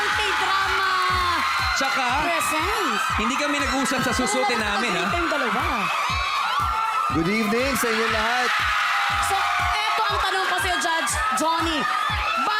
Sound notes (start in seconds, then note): 5.6 screaming; 8.4 screams become louder